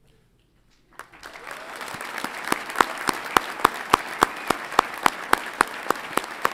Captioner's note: audience applauds and cheers